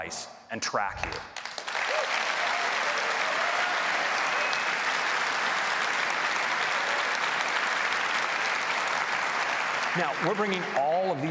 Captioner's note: applause